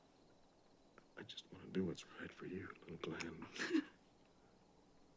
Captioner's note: sobs